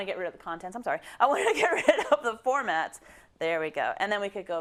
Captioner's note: laugh